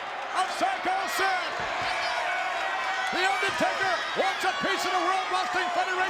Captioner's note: applause